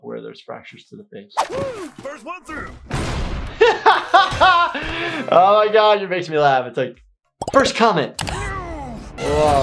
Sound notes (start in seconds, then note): 2.9 doors slamming; 3.6 laughing; 8.3 Captain Grime yelling